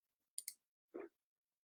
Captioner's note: mouse clicks